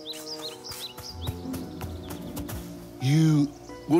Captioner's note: approaching footsteps